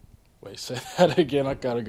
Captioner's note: chuckling